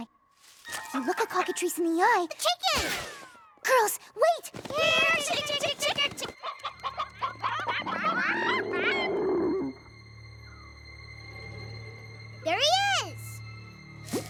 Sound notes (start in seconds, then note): 5.2 clucking; 7.6 animal growls